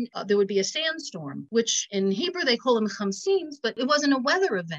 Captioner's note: speaks in Hebrew